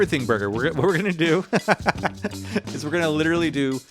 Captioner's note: laughs